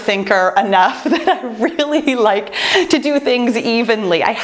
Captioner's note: laughs